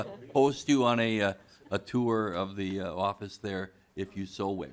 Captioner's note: laughing